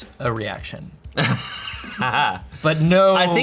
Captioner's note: laughs